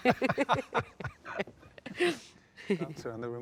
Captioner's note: both laugh